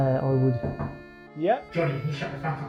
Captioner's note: knocking on door